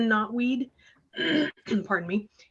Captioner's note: clears her throat